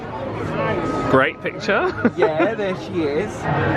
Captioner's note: laughs